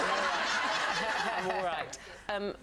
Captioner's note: audience laughs